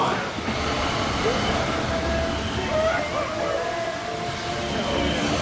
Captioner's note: rollercoaster sounds